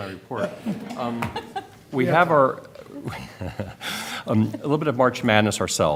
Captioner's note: laughter